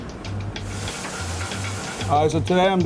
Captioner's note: food sizzles